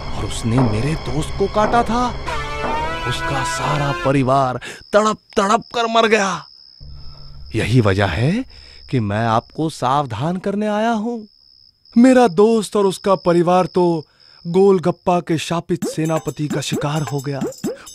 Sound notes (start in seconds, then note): none